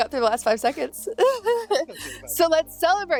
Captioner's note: laughs